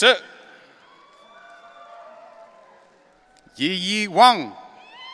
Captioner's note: audience cheering